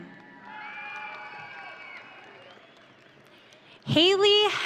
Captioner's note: audience cheering